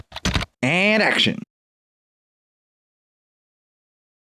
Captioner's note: typing